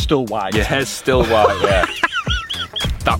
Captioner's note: laughs